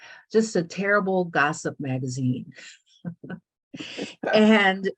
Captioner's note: laughs